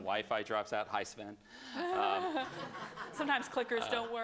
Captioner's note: laughter